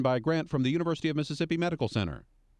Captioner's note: voiceover